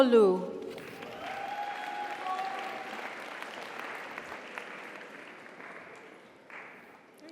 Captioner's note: audience applauds; audience cheers